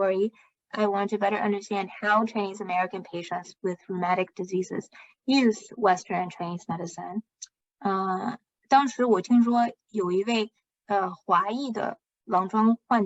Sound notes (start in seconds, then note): 3.6 speaking chinese